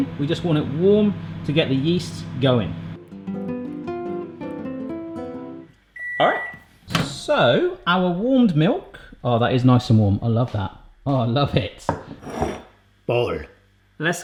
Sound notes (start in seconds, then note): 3.0 serene music; 5.9 microwave beeps